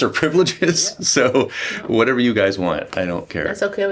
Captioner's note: laughter